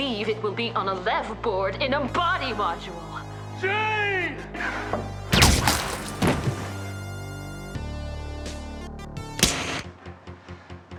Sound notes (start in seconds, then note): 5.3 gunshot; 9.4 slap